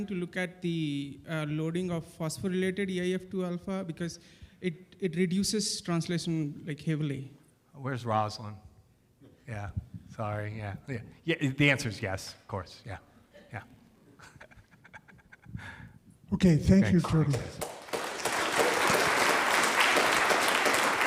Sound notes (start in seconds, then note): 14.1 laughs; 17.2 audience applauding